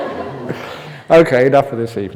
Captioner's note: laughter